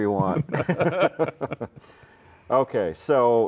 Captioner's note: laughing